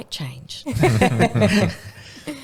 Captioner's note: laughing